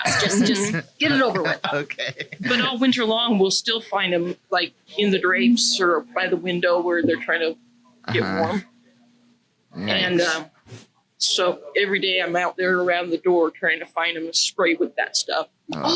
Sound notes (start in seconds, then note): 0.0 laughs